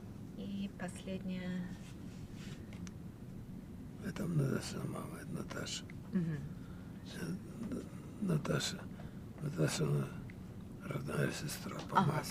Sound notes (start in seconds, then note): 5.7 mumbling